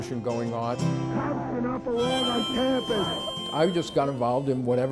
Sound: people chanting

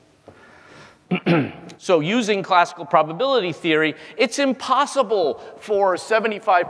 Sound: cough

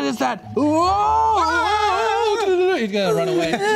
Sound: screaming

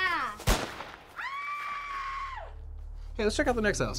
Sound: gun fires; Melissa screaming

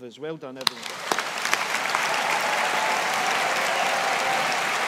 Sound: audience applauding

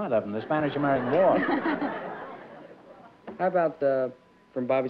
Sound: laughter

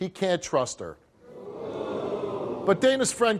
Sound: audience jeers

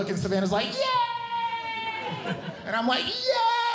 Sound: cheering

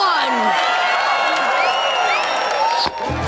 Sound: cheering

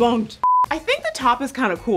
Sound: screen beeping

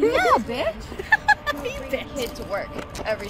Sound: Destiny laughs

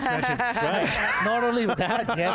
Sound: laughing

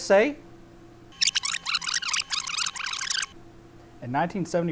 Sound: rewind sound effect

